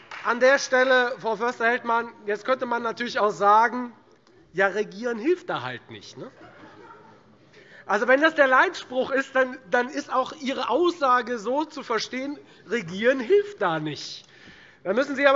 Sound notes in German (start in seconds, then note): 6.3 Heiterkeit Freie Demokraten